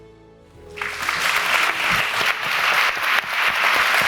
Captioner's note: audience applauding